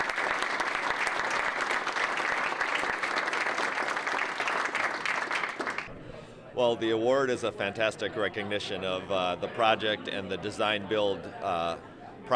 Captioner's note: applause